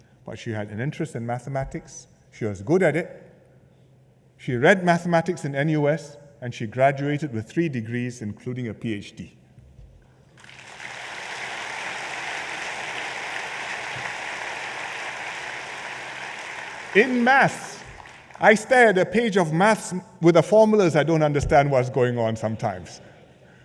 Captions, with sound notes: She had an interest in Mathematics, she was good at it, she read Mathematics in NUS and she graduated with three degrees, including a PhD... [Applause] in Maths. I stare at a page of Math with the formulas, I do not understand what is going on sometimes.